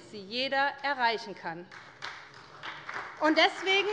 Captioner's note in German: Beifall bei der SPD